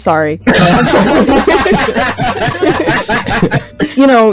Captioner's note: laughter